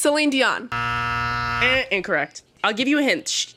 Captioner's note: buzzer sounds